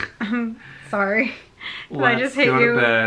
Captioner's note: laughs